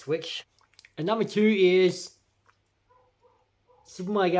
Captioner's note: dog barks